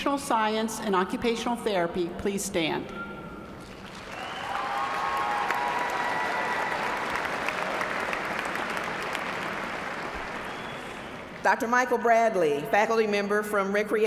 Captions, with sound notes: DEPARTMENT. >> WILL THE CANDIDATES FOR DEGREES IN OCCUPATIONAL SCIENCE/OCCUPATIONAL THERAPY PLEASE STAND. [ APPLAUSE ]